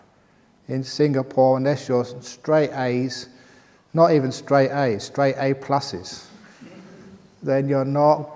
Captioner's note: laughter